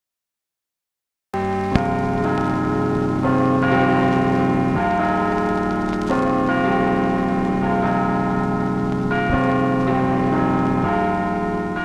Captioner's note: church Bells Chiming